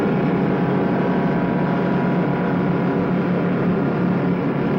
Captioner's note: truck engine whirring